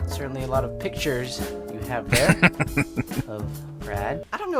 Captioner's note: laughing